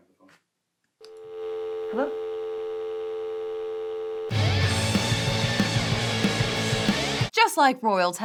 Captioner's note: dial tone